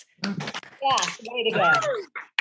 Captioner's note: all applauding